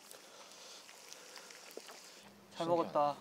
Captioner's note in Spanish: Virtiendo el aceite de oliva